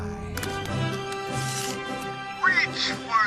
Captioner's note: pullstring noise